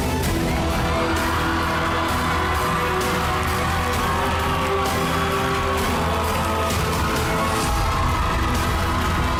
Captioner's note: crowd cheering, applauding